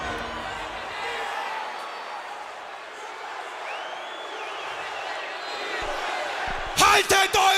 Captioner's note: crowd chatter